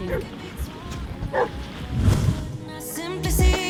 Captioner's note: dog barking